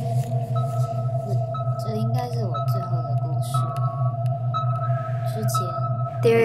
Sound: ethereal droning and beeping sound

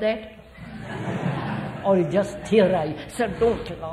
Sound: laughter

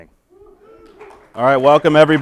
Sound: audience cheering

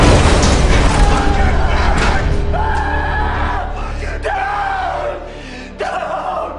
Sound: screaming

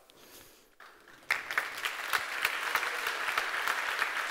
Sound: applause

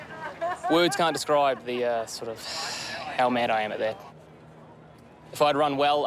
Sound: sighs

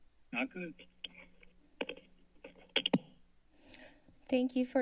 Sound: microphe thumping

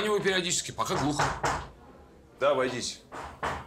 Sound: knocks on door

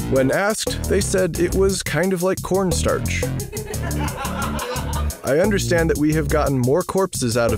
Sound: laugh Track

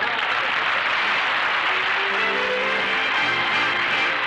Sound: audience applauding

